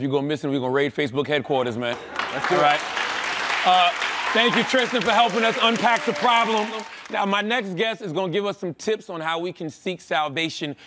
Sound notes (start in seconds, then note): 1.9 applause